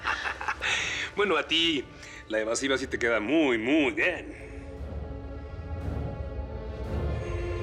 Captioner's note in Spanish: Risas